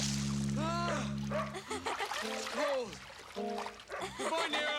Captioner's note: Caddie laughs; Nero barking